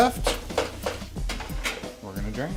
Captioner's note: spatula chopping